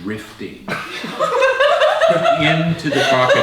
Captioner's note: group laughs